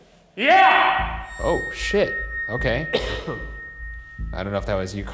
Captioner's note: coughs